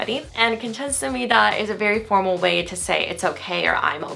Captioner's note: foreign language